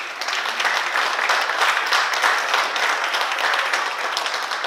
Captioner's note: oklaski